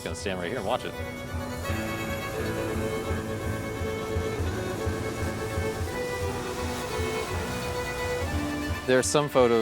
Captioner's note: train rumbling sounds